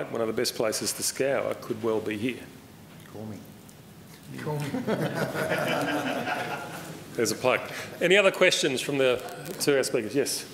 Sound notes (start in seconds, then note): 4.6 laughter